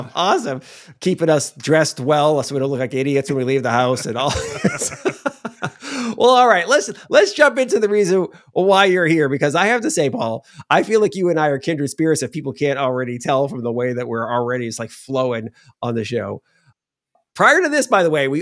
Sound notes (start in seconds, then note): 3.9 both laughing